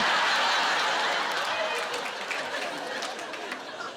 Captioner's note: laughter